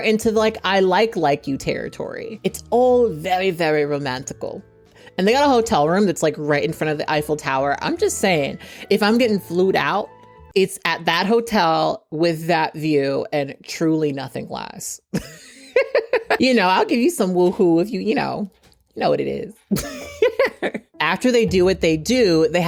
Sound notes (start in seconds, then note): 15.7 laughs; 19.7 chuckles